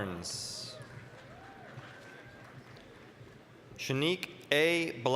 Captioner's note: applause